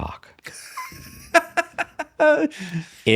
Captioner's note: laughs